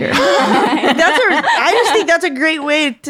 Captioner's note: everyone laughing